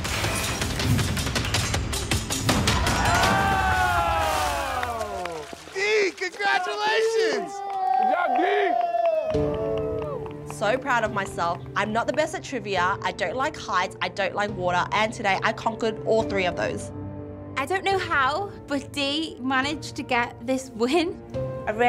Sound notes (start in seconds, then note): 0.1 dramatic orchestral music; 2.6 crowd cheering